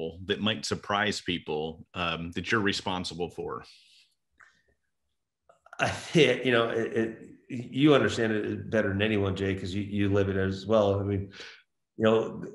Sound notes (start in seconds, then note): 6.6 laughs